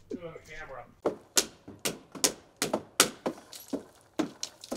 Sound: drill smacking

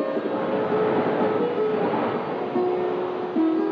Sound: water Waves Sound

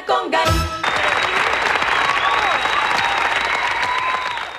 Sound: crowed applauding

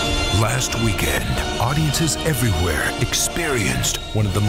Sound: voiceover

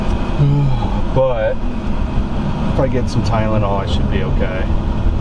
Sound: sighs

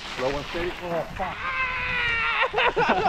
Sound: screams; laughs

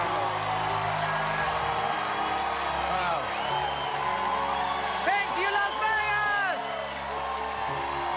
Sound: cheers and applause

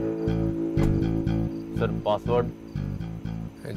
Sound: car door closes

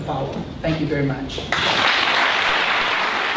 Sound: applause

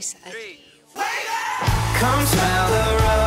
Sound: crowd

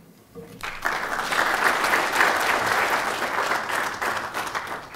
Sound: applause

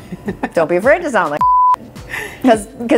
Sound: beep

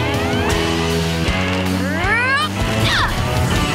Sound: grunting

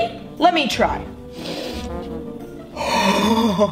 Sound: sniffing

